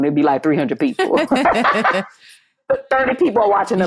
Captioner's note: laughter